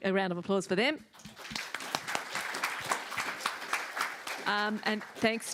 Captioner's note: applause